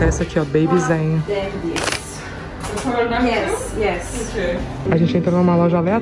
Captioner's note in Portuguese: conversa em inglês